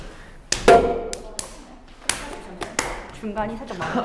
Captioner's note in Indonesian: Tap